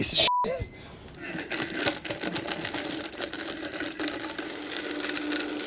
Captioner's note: blender whirring